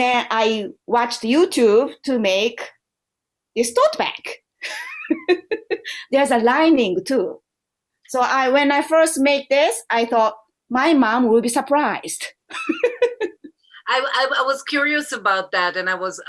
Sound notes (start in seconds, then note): 4.6 laughter